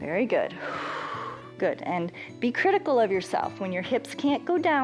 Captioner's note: exhales; inhales